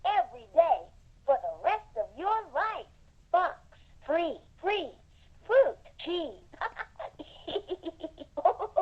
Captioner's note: laughs